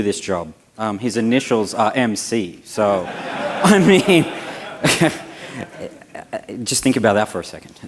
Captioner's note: laughter